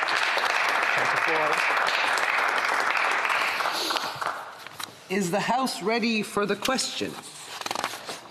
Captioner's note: applause